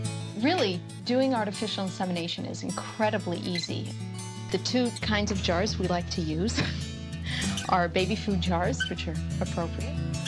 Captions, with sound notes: -Really, doing artificial insemination is incredibly easy. The two kinds of jars we like to use [chuckles] are baby food jars, which are appropriate....